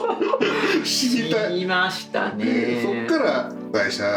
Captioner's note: laughs